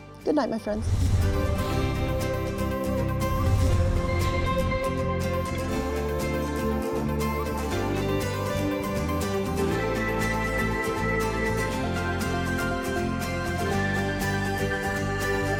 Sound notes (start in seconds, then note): 0.7 graphics whooshing; 1.4 upbeat music